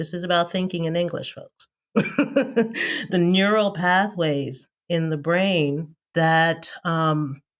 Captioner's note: laughter